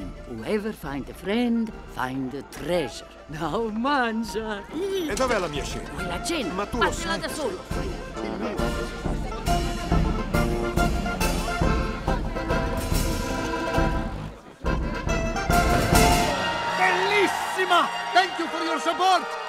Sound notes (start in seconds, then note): 3.1 speaks in Italian; 5.0 arguing in Italian; 7.6 cheerful music continues; 16.2 speaks in Italian